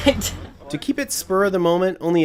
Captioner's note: laughter